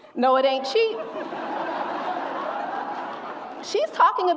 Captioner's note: audience laughs